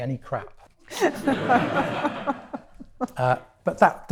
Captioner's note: audience laughing